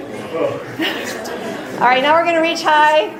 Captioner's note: laughing